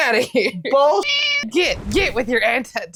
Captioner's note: meow